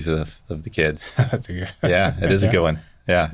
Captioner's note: laughs